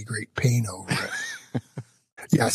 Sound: laughs

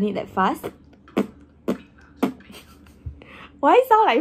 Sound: fart noise

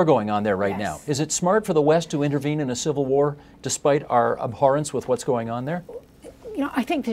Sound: mixed voices

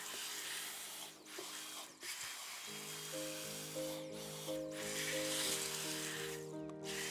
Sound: calming music; vacuum humming

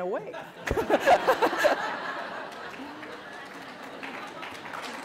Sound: laughter and applause

